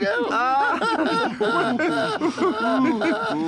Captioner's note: all laugh